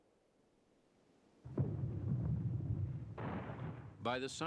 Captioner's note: sound of gunfire